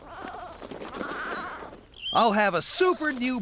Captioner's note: sheep Bleating